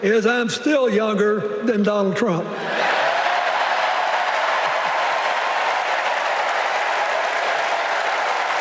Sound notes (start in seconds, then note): 2.6 cheers and applause